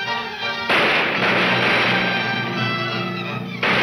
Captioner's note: gunshots banging